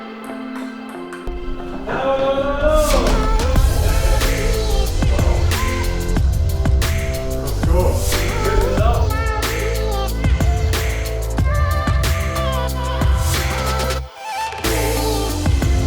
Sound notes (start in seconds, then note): 2.0 cheering; 2.0 upbeat music; 7.7 indistinct conversation